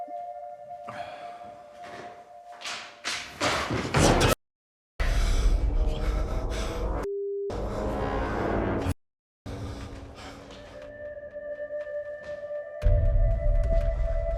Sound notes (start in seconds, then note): 0.8 Danny sighs; 3.4 books thudding; 5.0 heavy breathing; 5.1 dramatic music; 9.5 light dramatic music